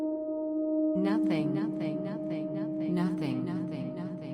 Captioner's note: calm ambient music; voice echoing